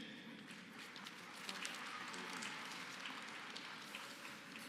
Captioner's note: applause